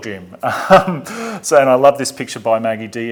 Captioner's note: laughs